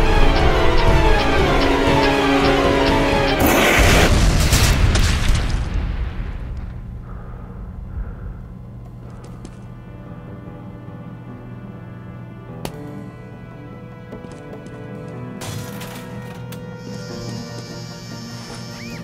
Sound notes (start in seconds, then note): 2.8 voosh; 3.4 booom